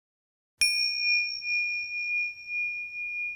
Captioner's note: bell chimes